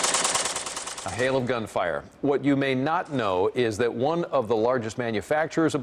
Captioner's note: sound of gunfire